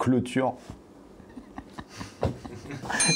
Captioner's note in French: rire